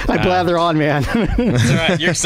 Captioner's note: laughs